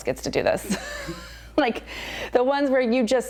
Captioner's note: laughter